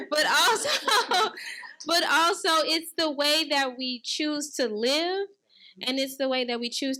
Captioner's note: laughing